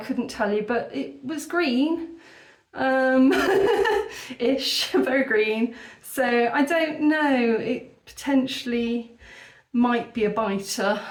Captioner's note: laughing